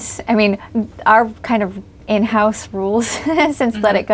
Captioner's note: laughs